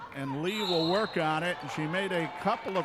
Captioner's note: referee whistling